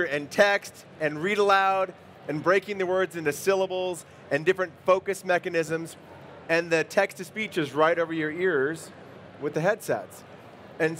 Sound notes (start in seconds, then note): none